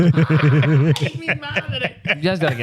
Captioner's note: laughing